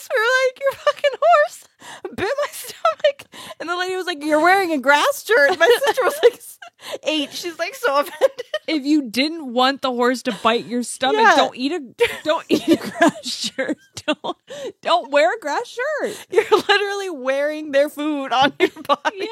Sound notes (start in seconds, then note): 12.4 laughs